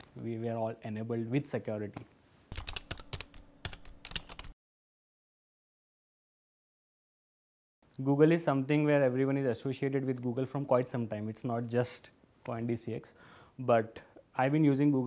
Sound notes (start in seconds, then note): 3.6 typing